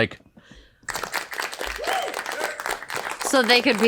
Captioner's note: applause and woo one, just guys